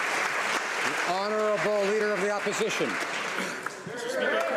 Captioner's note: applause